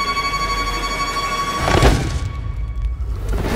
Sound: banging

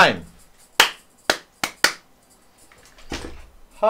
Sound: clapping for audio synchronization

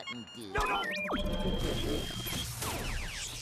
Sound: beeping

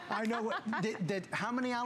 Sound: laughter

